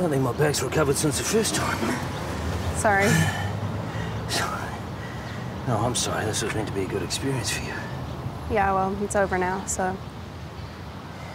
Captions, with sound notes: - I don't think my back's recovered since the first time. - Sorry. (panting) - No, I'm sorry. This was meant to be a good experience for you. - Yeah, well, it's over now, so...